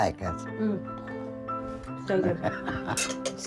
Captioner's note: chuckles